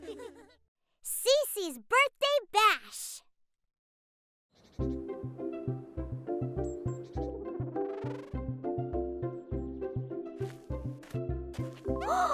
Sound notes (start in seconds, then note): 4.9 bright music; 7.5 bugs buzzing